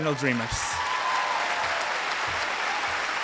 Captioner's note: applause